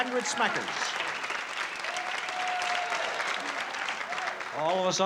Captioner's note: applause